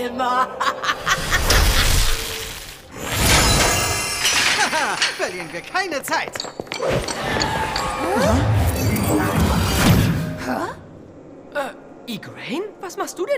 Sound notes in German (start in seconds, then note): 0.2 Sie lacht; 2.9 Zauberhafte Klänge; 7.0 Zauberhafte Klänge, überraschte Laute